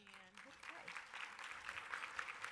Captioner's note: audience applause